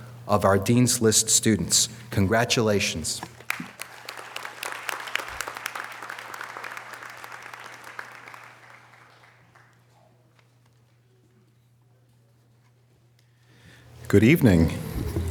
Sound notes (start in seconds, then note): 3.4 audience applause